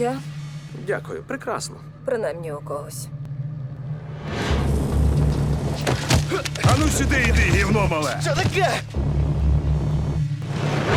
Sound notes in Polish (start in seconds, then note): 6.1 jęk